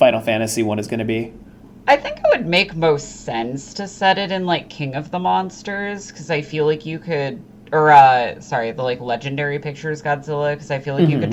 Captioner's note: excited